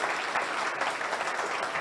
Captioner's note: audience applauds